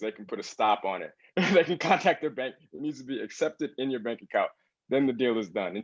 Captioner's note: laugh